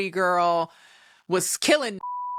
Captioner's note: beep